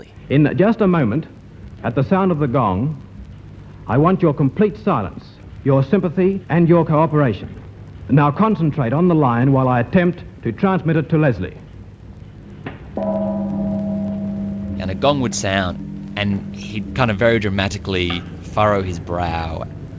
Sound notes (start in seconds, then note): 13.0 gong